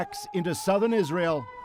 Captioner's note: sirens sounding